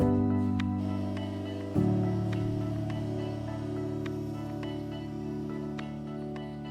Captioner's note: platform motor whirring